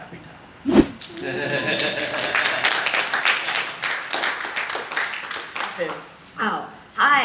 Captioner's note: audience laughter and applause